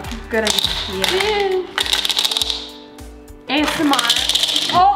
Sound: clattering

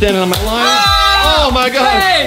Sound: screaming

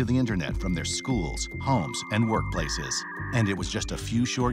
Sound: modem beeping

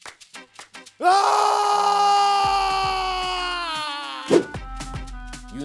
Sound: screaming

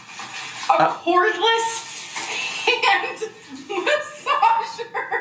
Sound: laughing

